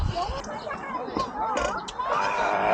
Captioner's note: beer gulp gulp